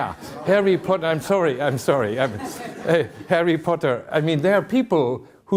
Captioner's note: chuckling